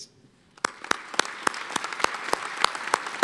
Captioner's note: applause